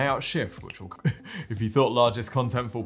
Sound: laughs

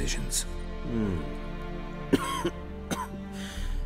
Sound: cough

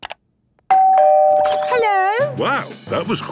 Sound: doorbell ringing

